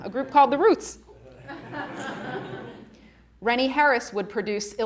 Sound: audience laughing

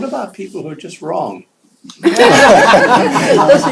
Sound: laughter

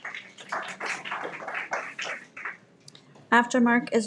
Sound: everyone applauds

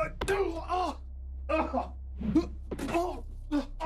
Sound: groaning

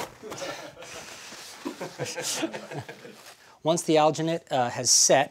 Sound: laughs

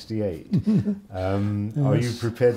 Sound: laughs

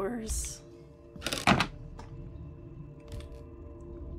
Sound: clunk

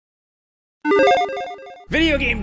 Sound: logo beeps

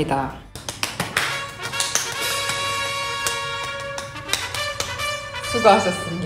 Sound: clap clap clap clap clap

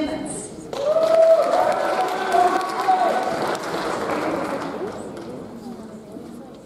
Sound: audience applauds; audience cheers

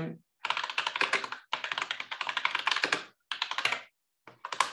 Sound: keyboard clattering

